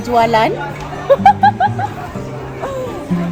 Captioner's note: laugh